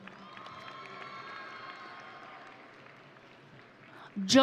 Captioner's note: audience cheering